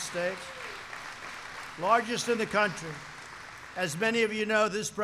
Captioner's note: applause